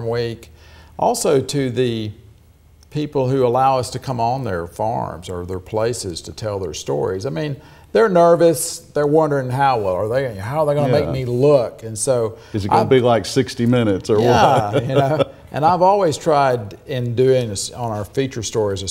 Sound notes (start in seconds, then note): 14.2 chuckles